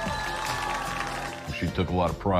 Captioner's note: cheers and applause